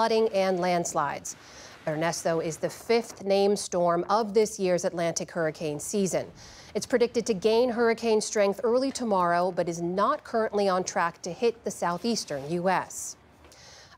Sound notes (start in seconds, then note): none